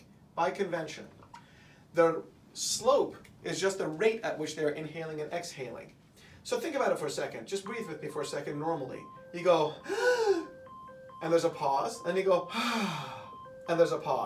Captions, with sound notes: By convention. The slope is just the rate at which they are inhaling and exhaling. So think about it for a second. [alarm begins sounding] Just breathe with me for a second, normally. You go ... [breathes in]... and there's a pause, and you go ... [breathes out] ... and